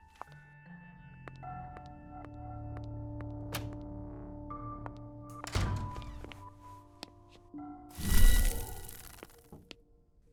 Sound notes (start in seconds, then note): 1.4 suspense music; 5.4 door closes; 7.9 magical buzzing